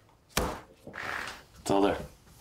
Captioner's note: bills thud